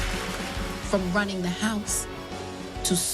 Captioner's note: cheers and applause